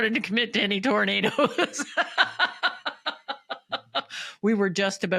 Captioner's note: laughing